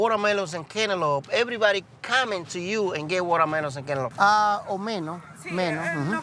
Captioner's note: and customers speaking Spanish